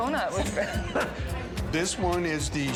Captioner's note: laughs